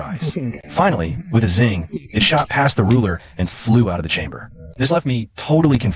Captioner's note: zing